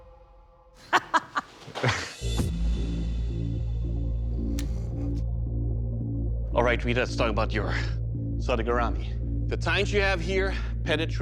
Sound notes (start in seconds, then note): 0.8 laughs